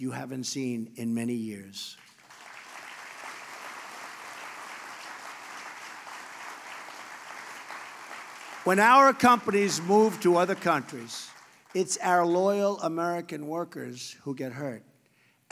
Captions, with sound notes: haven't seen in many years. (Applause.) When our companies move to other countries, it's our loyal American workers who get hurt.